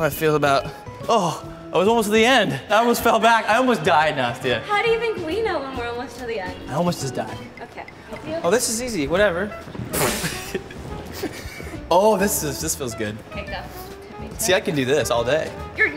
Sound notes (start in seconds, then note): 9.6 blows raspberry